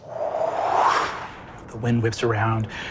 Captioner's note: imitates wind whooshing